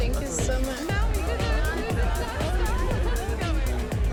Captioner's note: people chattering; upbeat music